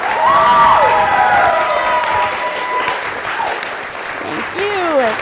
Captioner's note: applause